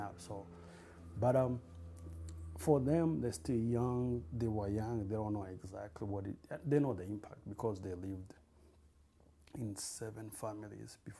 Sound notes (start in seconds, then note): none